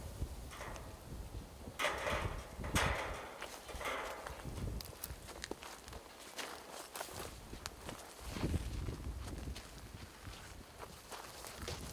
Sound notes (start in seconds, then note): 1.7 metal clanking